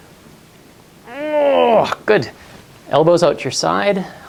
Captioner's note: grunts